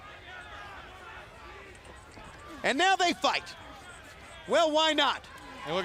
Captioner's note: crowd chatter